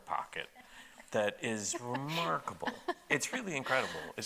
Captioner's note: laughing